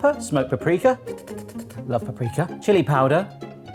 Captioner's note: slurps